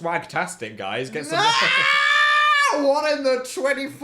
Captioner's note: Dan screaming